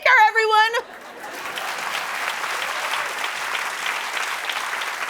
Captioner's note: cheering and applause